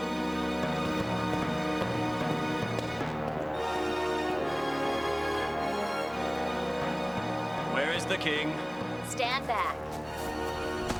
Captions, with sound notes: (footsteps) - Where is the king? - Stand back.